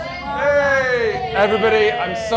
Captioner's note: everyone cheers